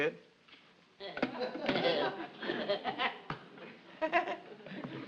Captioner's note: audience laughs